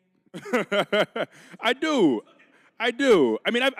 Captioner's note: laughing